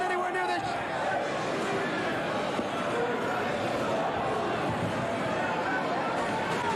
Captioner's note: fans chanting